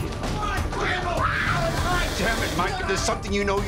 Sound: yelling

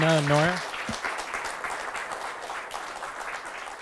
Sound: applause

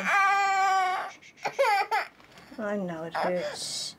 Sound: continues to cry

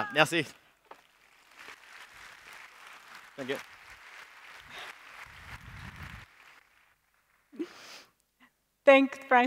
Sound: applause

